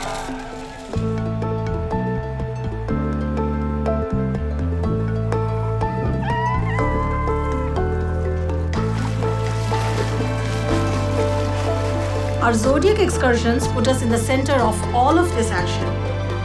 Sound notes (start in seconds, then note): 6.0 baby seals vocalizing; 9.6 water splashing